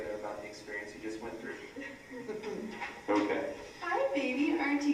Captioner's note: laugh